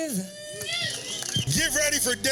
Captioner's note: all cheering and applauding